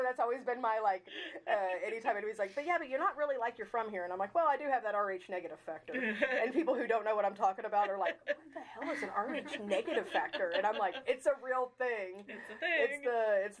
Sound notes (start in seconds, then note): 6.1 chuckling